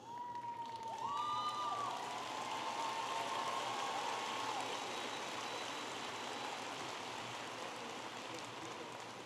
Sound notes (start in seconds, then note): 1.6 audience applauding and cheering